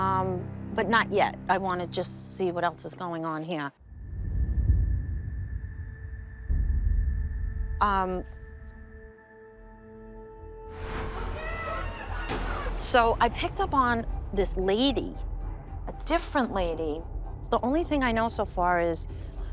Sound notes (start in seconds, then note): 3.8 foreboding music; 11.5 garbled screams, loud bang